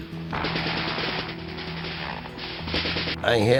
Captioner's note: guns firing